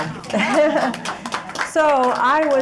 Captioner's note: audience clapping